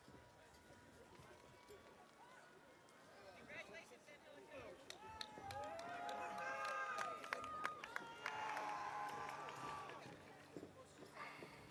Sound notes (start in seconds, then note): 5.1 audience applauding; 5.4 audience cheering